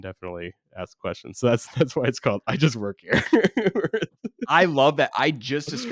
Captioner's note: laughs